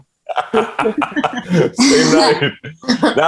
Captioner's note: laughing